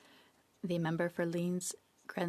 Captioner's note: speaking French